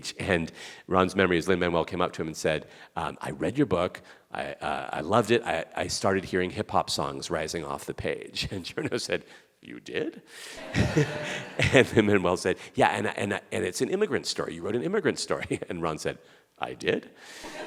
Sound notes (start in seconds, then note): 10.5 audience laughing; 17.4 audience laughing